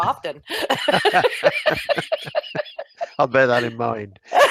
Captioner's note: laughs